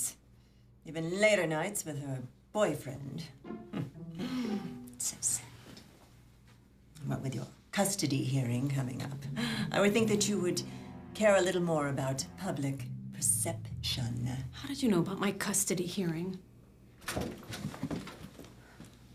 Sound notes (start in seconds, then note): 3.2 scoffs